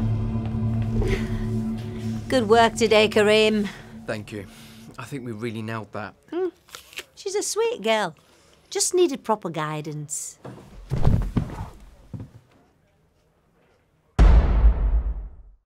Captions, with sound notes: - Good work today, Kareem. - Thank you. I think we've really nailed that. - She's a sweet girl. Just needed proper guidance. (Carim thuds on floor)